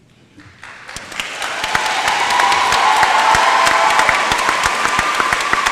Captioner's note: applause